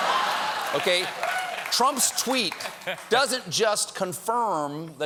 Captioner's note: laughter